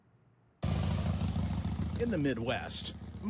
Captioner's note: engine rumbling